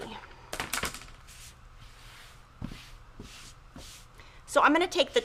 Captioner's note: tools clatter